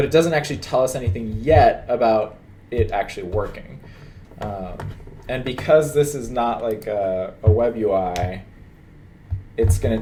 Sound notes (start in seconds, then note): none